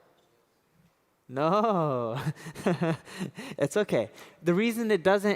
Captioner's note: laughs